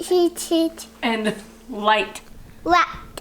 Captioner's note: laughs